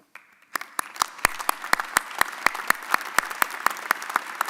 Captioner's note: audience applauding